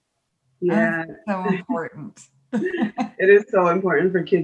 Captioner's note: laughs